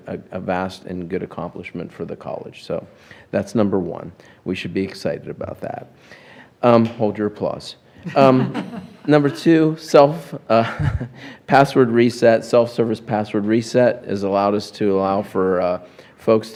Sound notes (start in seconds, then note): 8.0 laughter